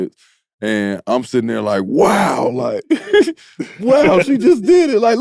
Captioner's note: laughs